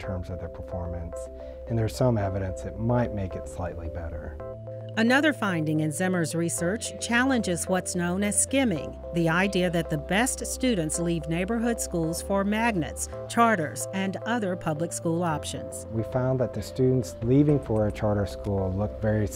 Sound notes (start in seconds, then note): 3.6 voiceover; 14.6 voiceover